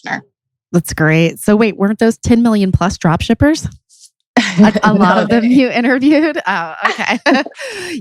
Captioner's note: laughs